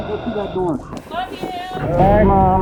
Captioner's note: film crew chattering